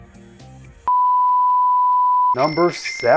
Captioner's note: signal beeping